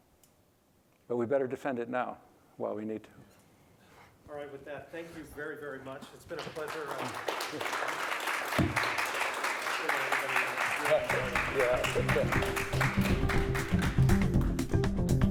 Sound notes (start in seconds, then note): 6.2 applause; 11.0 upbeat music